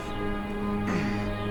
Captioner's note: grunting